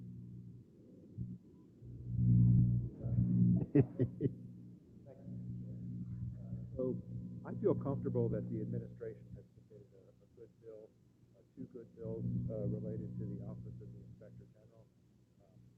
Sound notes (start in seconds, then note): 3.6 laugh